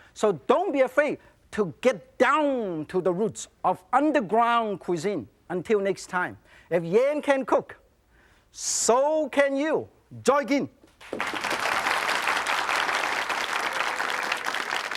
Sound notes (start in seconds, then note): 11.0 audience applauds